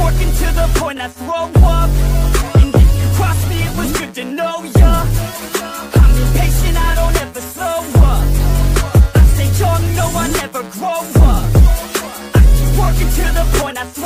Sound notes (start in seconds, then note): 12.7 throw up